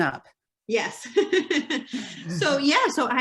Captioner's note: chuckles